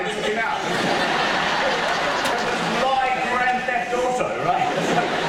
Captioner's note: audience laughter